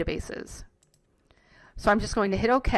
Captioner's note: mouse clicks